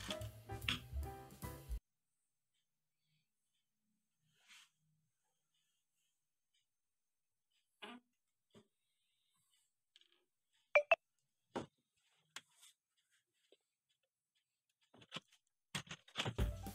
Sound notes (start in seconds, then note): 2.3 silence; 10.7 weird sound coming from the camera *phone